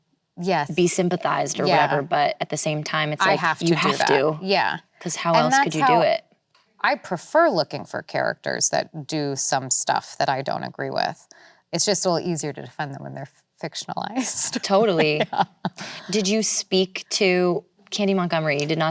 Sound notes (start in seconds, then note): 14.3 laughs